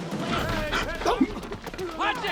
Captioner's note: grunts